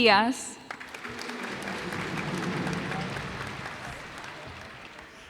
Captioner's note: cheers and applause